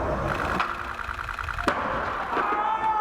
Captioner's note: rolling skateboard grows louder; rapid camera shutter; loud crash followed by yelling off screen